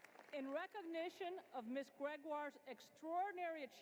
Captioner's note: applause